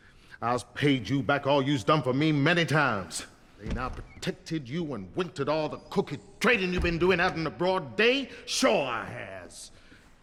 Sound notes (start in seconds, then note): none